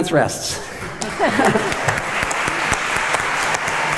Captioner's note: applause